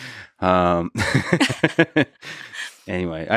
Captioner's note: both laughing